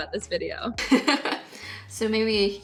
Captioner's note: laughing